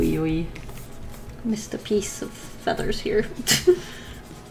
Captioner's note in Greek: Γέλια